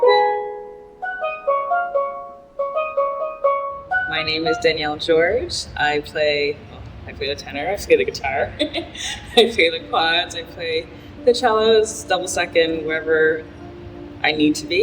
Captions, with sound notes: - My name is Danielle George. I play... I play a tenor, I play the guitar [laughs] I play the quads, I play the cellos, double second, wherever I need to be.